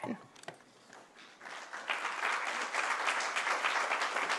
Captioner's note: applause